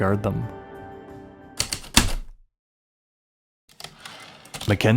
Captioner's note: heavy typewriter keystrokes then return slide